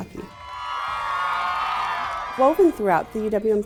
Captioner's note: students cheering